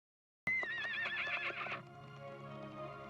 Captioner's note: horse neighing